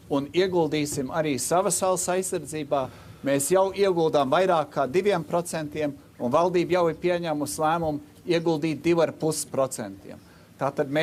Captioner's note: speaking Alternate Language